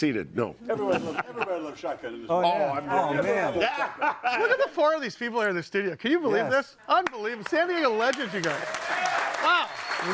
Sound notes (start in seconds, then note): 0.6 laughs; 3.6 laughs; 9.9 audience applauding